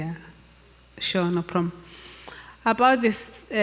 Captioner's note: speaks Zulu